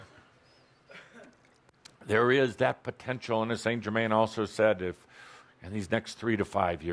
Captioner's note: chuckling